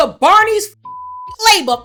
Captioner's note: beep